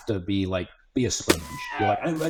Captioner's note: sponge thuds